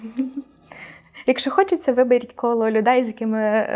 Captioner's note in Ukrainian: сміх